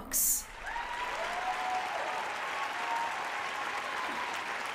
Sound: applause

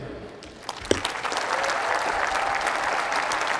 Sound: applause

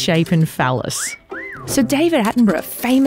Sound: whistles

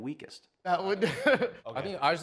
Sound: laughs

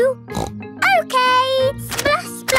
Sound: snorts

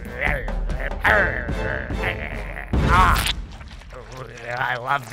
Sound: growling

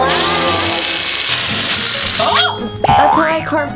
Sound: drill buzzes

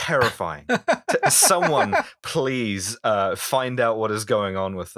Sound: laughter

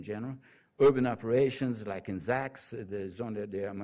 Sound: foreign language

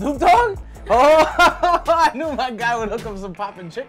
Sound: laughs

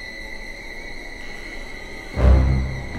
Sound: door creaks

